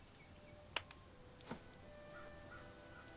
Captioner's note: bump